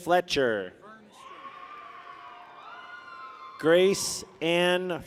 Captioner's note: people cheer